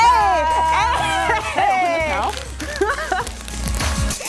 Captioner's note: laughter